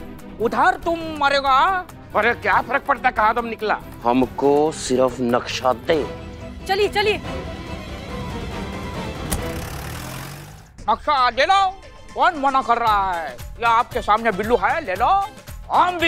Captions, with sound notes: What difference does it make where? Just give me the map. Let's go. Come on. [car door closing] [engine starting] Kill him, then. Who's stopping you? There you go. He's Billu. Kill him. I am not Billu! You are Billu!